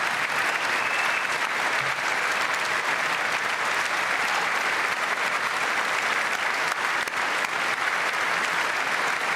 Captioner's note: applause